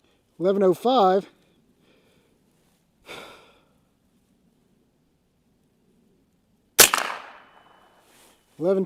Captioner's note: gunshot